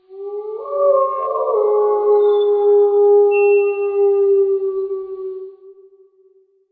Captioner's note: wolf howling